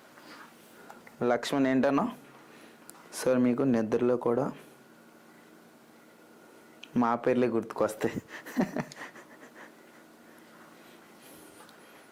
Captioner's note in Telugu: నవ్వు